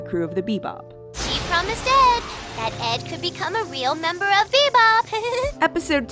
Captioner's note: giggles